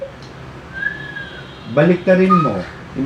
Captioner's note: whistling